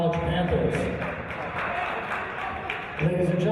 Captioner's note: applause